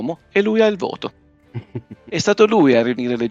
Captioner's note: laughter